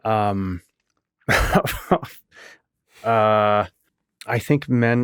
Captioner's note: laughing